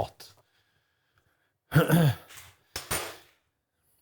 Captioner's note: clears Throat